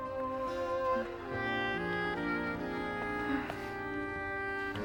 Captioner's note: soft moaning